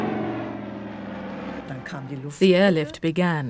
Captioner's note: speaking german